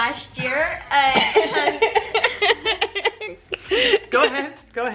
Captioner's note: laughing